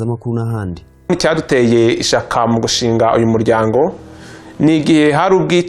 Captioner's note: speaking in Kinyarwanda